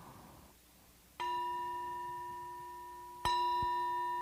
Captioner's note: ringing